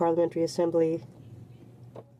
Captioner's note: speaking French